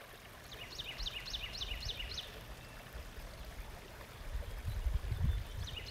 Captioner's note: water flowing and birds chirping